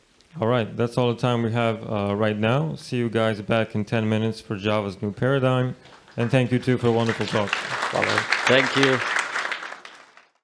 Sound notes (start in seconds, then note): 5.8 applause